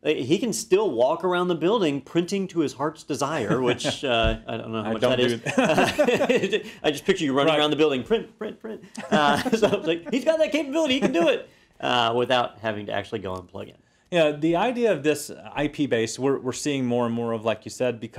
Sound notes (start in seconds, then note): 3.3 laugh; 8.4 laugh